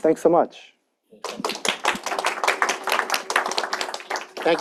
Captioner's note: applause